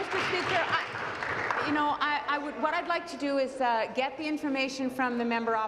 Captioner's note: applause